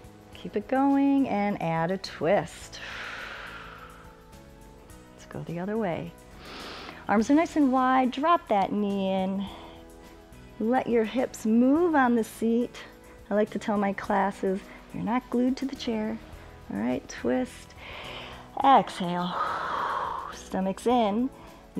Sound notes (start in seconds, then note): 2.7 exhales; 6.4 inhales; 19.3 exhales; 19.3 inhales